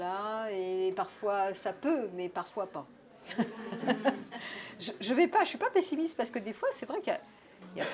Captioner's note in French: rires